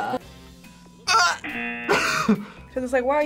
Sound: buzzer rings; laughs

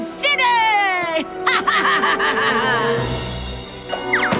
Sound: laughing

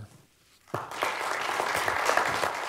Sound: applause

